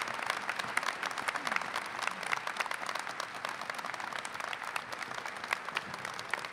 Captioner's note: applause